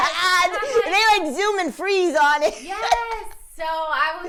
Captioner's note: laughing